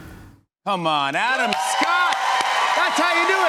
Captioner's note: cheers and applause